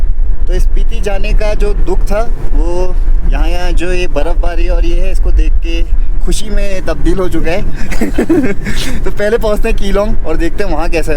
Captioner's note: laughs